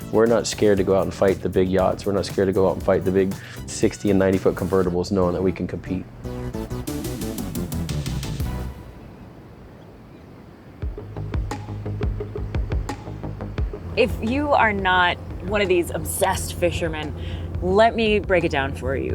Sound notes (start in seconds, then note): 9.9 birds chirping; 12.1 suspenseful music